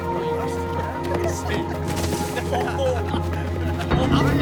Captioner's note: chuckles; laughter